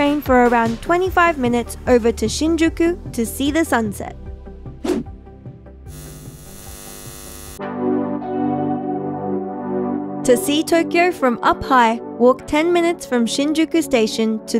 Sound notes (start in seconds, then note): 4.8 screen whooshing; 5.8 eyes buzzing; 8.2 tranquil music